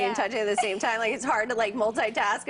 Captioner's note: laughter